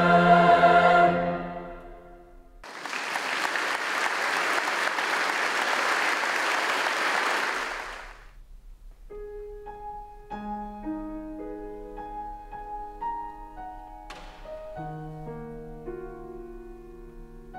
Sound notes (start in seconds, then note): 2.6 audience applauds; 9.1 gentle pensive music